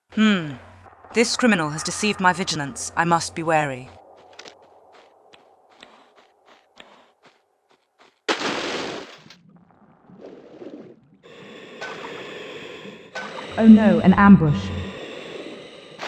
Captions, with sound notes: Hmm, this criminal has deceived my vigilance, I must be wary. *breathing noises* Oh no, an ambush!